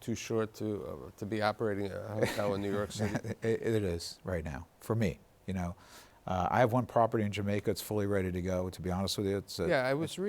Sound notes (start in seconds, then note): 4.8 laughs